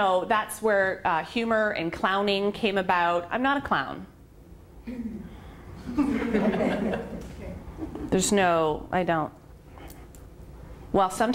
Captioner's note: laughter